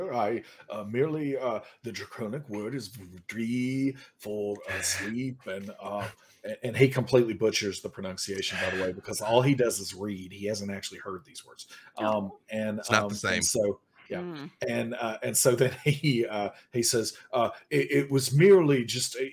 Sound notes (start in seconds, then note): 3.5 speaks draconian